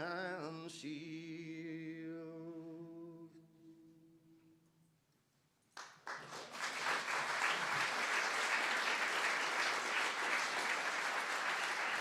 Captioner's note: applause